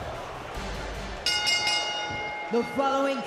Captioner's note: bell rings